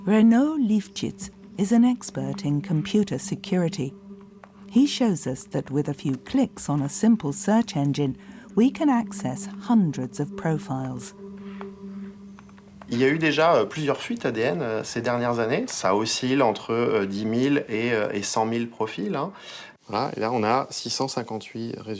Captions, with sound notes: Renaud Lifchitz is an expert in computer security. He shows us that, with a few clicks on a simple search engine, we can access hundreds of profiles. (speaking in foreign language)